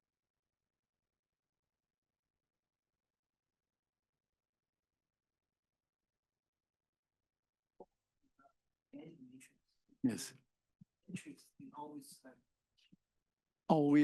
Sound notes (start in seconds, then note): 7.6 student speaking faintly; 11.2 student speaking faintly